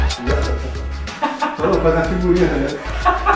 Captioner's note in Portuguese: Risada ridícula; Risada de idiota